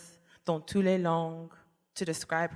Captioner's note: speaking french